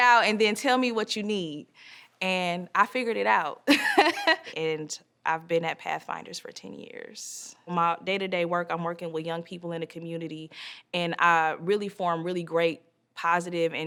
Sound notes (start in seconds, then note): 3.8 laughs